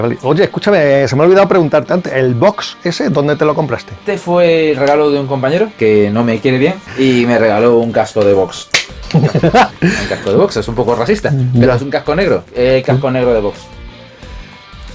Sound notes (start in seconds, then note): 9.5 laughs